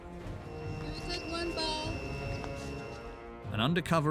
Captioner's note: speaking foreign language